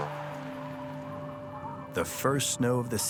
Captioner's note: wind whistling